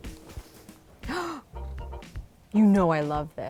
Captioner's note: gasps